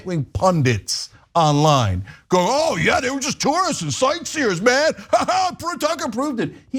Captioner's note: laugh